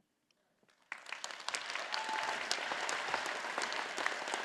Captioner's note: all applauding